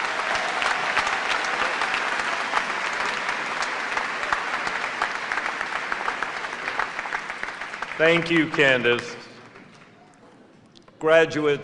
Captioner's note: applause